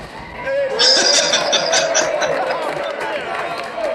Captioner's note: laughing